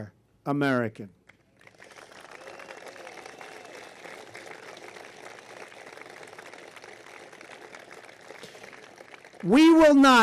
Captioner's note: applause